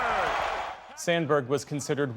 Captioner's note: cheering